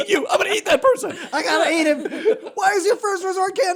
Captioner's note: laughter